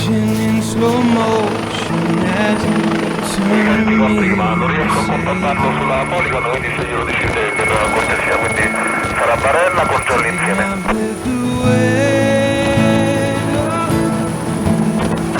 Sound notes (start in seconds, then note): 0.0 helicopter; 3.5 radio; 11.3 helicopter